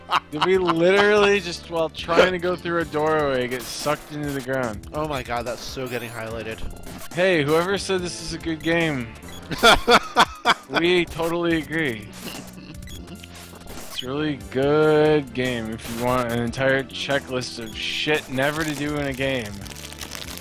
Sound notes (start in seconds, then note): 9.4 laughs